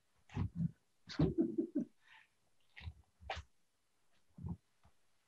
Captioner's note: laughs